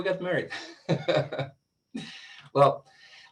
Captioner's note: laughs